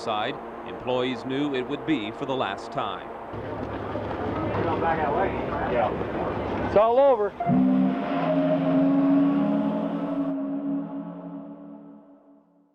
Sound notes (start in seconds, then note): 3.2 indistinct chatter; 7.4 whistle blows